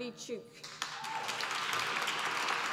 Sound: applause

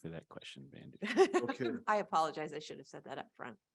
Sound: laughs

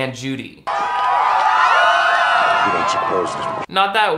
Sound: crowd cheering excitedly

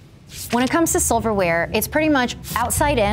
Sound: page flapping

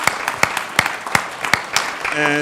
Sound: applause

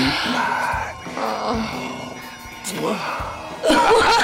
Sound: both moan; both laughing

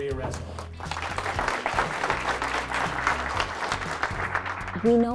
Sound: crowd applauding

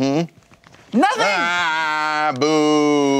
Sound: groans

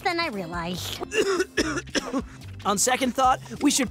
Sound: coughing

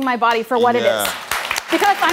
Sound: audience applauds

